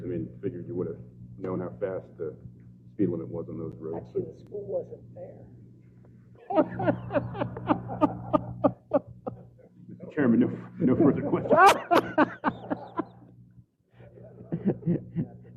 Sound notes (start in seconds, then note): 6.4 laugh